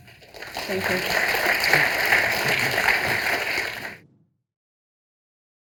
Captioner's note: audience applauding